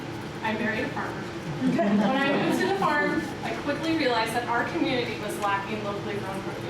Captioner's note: laughter